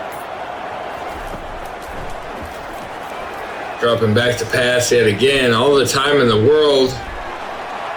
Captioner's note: crowd Noises